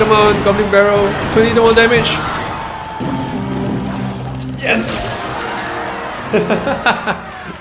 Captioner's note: zaps